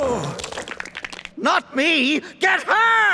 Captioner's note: grunting